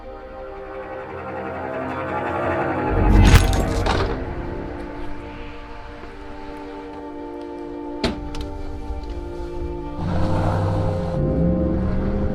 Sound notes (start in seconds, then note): 4.0 gun thuds; 9.3 car engine rumbling